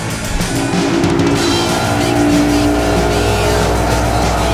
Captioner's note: engine revving